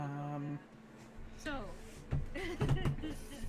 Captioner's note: laughs